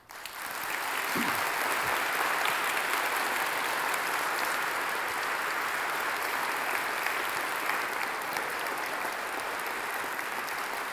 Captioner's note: applause